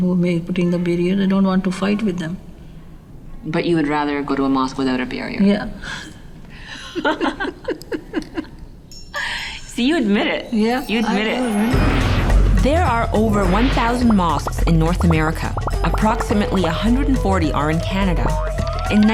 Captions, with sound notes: But you would rather go to a mosque without a barrier. [both laughing] See, you admit it. There are over 1,000 mosques in North America. Approximately 140 are in Canada.